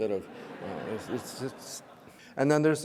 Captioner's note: audience laughing